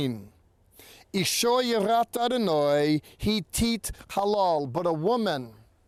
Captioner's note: speaking in Hebrew